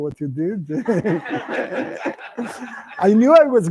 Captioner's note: laughter